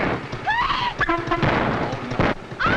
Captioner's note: Patsy screaming; horn honking; explosion booming